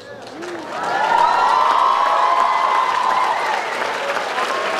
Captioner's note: audience applauds